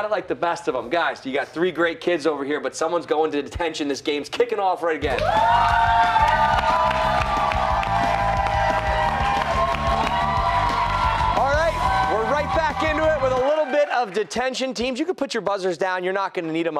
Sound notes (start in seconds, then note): 5.0 cheers and applause